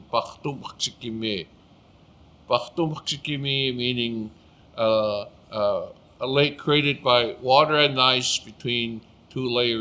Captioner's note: speaking Blackfoot